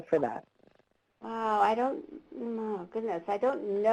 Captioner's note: voiceover